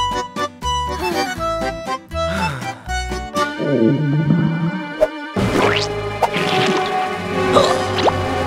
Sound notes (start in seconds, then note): 0.2 romantic music playing; 2.2 both sighing; 3.8 tense music playing; 5.7 gagging; 5.7 ominous music playing